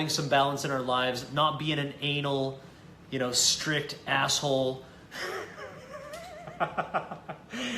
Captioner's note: laughs